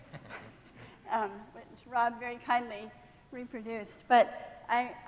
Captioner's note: laughing